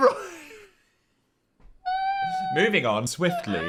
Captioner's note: laughs